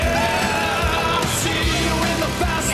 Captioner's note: howling